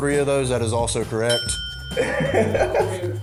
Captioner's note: ding; laughs